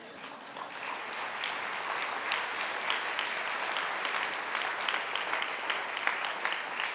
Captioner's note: audience applauding